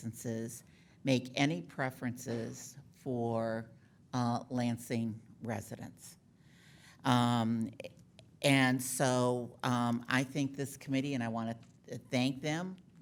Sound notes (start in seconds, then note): none